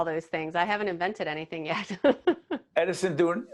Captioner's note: laughing